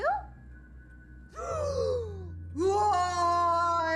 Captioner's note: gasping; roaring